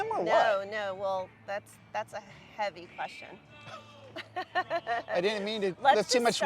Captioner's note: chuckles